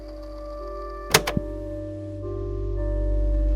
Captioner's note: click